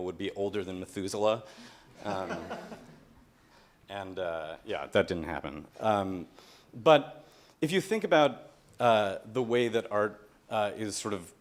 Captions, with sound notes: would be Older Than Methusela. (laughter) And uh, yeah, that didn't happen. But, if you think about the way that art is sort of,